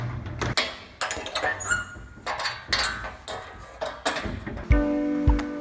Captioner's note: metal lock squeaking and clanging; emotive piano music